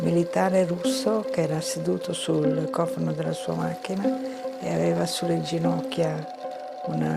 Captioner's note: continues speaking in foreign language